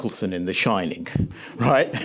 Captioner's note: chuckles